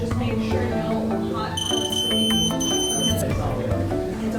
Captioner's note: beeping